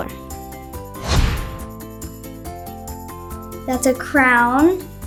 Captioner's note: screen whooshes